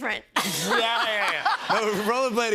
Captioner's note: laughs